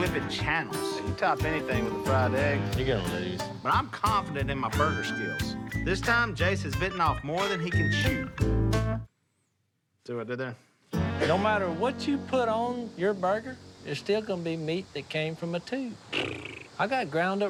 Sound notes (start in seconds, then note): 15.6 scoffs